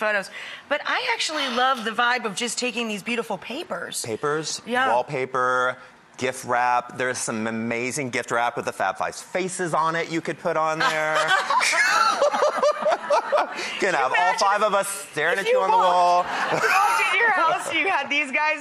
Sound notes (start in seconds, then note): 10.8 laughing together; 16.3 everyone laughing